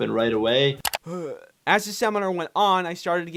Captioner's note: groans